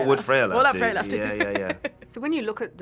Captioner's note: laughs